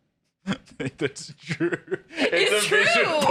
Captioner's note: laughing